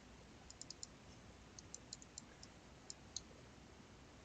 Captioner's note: mouse clicking